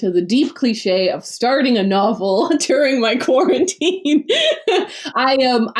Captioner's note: laughs